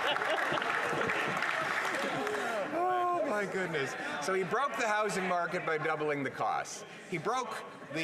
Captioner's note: some Laughter